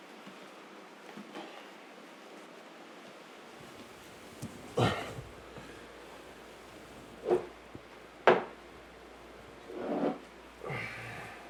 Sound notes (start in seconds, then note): 0.2 footsteps; 4.7 sigh; 10.6 exhaling